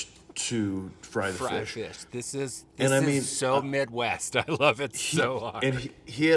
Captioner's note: laughing